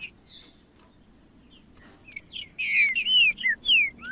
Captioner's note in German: trinca ferro cantando